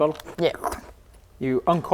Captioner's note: uncorks